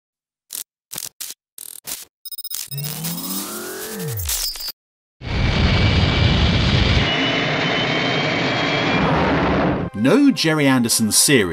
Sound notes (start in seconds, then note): 0.0 static electricity crackling; 2.7 rapid beeping; 5.3 aircraft's whooshing